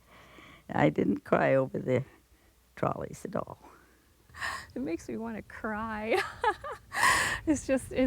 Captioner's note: chuckles